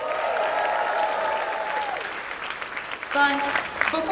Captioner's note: audience cheers